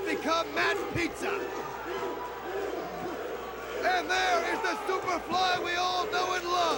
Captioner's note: crowd cheering